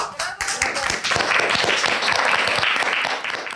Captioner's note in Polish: oklaski